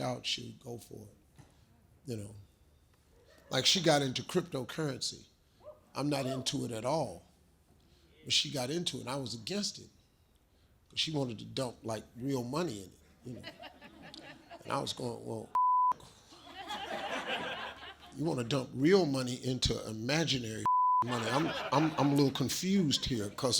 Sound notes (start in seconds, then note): 15.5 beep